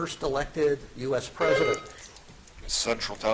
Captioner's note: buzzer dings